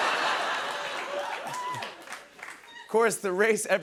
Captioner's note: laughter